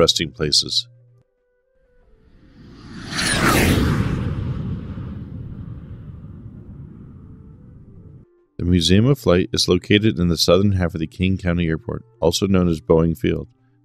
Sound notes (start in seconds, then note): 2.3 jet Whoosh sound